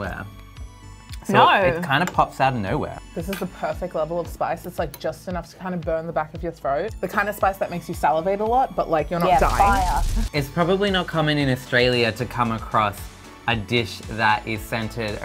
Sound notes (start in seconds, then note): 0.2 upbeat music; 9.1 flames crackle